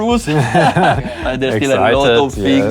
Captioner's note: both laugh